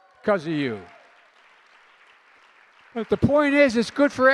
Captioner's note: applause